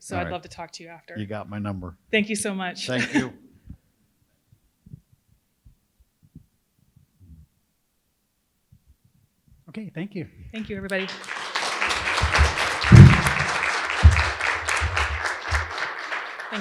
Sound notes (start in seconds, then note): 10.6 audience applauding